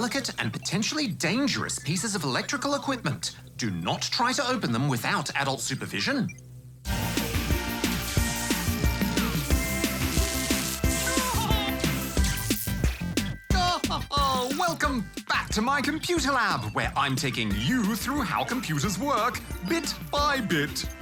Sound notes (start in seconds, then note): 11.0 chuckles; 13.4 laughs